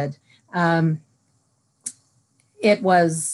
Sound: silence

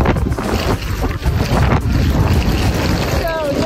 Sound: luggage scraping on sidewalk

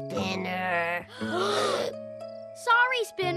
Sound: gasp

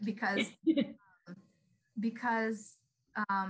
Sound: chuckles

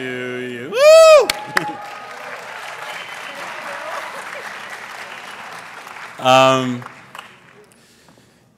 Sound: applause

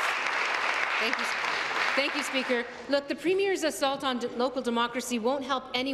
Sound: applause

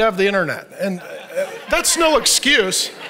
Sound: audience laughs

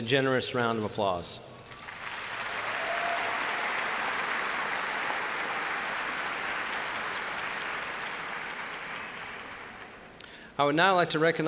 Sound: applause

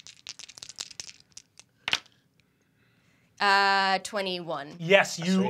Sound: dice clacking

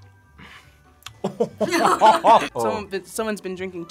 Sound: laughs

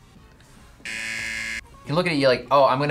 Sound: buzzer rings

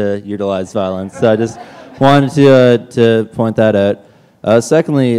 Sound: laughter

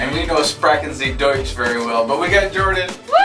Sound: speaking in foreign language

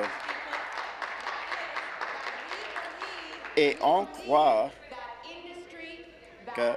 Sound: applause

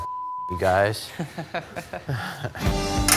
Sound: laughter

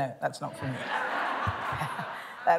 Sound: laughter

